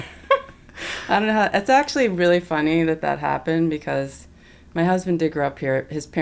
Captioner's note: laughter